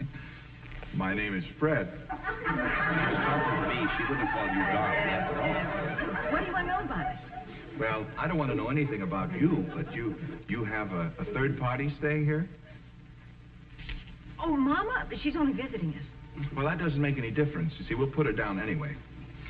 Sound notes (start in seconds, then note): 4.8 audience laughing